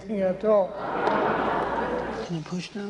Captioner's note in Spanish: risas